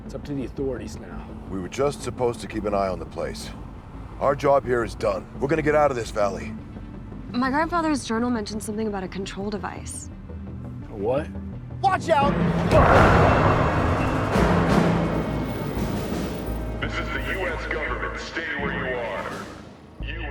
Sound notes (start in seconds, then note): 12.8 dramatic music; 17.4 loudspeaker